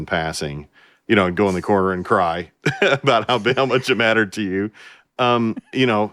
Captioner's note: laughter